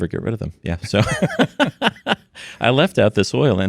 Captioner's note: laughs